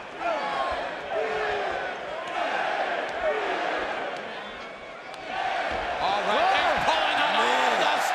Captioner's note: crowd cheering